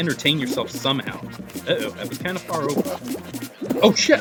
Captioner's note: cusses